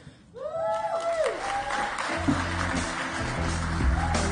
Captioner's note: applause